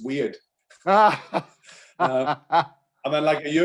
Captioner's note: laughing